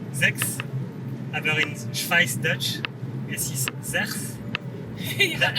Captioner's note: pronounced in Swiss German